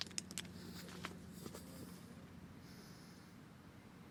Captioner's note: man heavily breathing